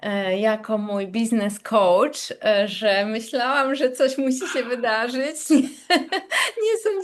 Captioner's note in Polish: śmiech